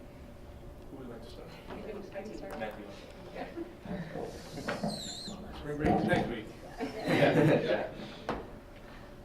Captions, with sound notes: Who would like to start? (chuckling) Spring break is next week. (laughing) >>Yeah.